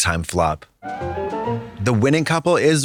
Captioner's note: whimsical chime